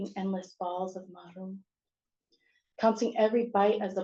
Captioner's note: non-english